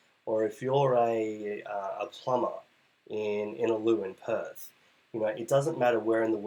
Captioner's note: voice muffled